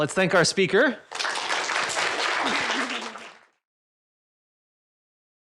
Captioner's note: applause